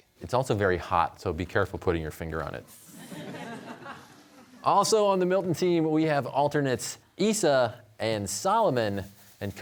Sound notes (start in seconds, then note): 2.8 audience chuckling